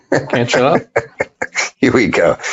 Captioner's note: laughs